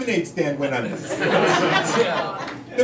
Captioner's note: crowd laughing